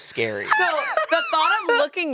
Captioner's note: laughs